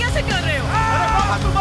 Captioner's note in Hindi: चिल्लाता है